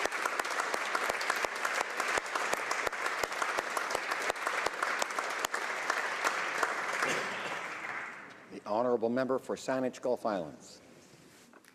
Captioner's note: applause